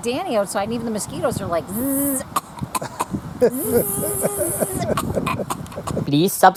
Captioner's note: laughing